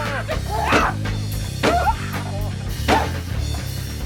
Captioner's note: Peach grunts